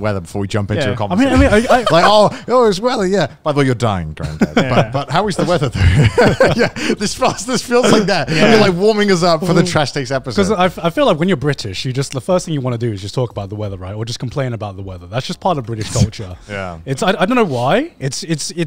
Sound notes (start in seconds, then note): 1.2 co-host laughs; 5.2 all laugh